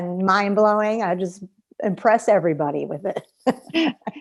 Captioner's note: laughter